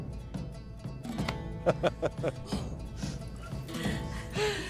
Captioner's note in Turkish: Gülme sesleri